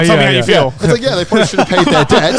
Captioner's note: laughing